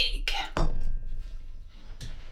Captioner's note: solid thunk